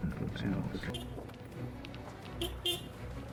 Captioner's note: horn beeps